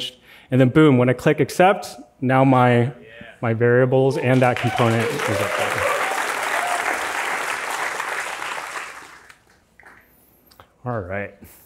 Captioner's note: applause